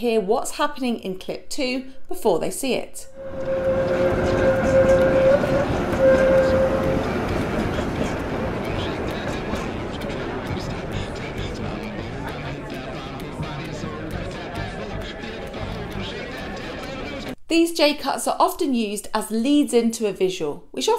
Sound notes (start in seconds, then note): 3.3 train tracks rattling; 4.4 club patrons conversing